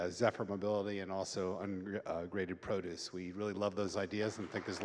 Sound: audience clapping

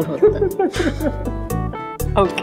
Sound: both laughing

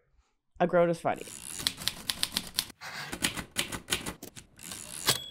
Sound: typewriter clacking

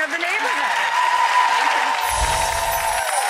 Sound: audience applauding; tinkling music

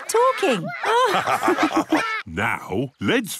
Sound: all laugh

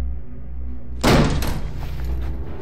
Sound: door slams open

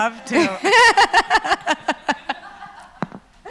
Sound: laughs

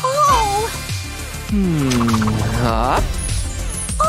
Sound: making sad sounds

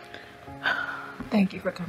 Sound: Kim sighs

